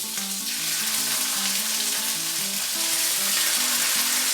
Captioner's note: sizzling noises